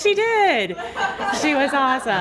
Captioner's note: laughter